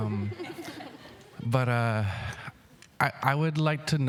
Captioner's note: speaking indigenous language